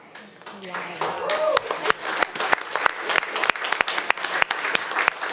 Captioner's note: attendees applauding